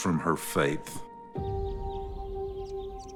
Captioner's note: birds chittering